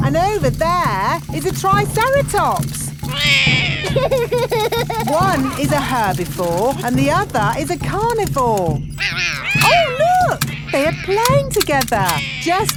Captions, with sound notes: And over there is a triceratops. -(ROARS) -(LAUGHS) One is a herbivore and the other is a carnivore. Oh, look! They are playing together,